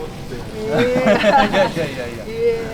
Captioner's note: laugh